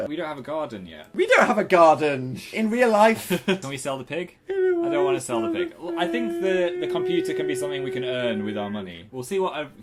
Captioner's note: płacze